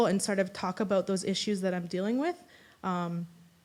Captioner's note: none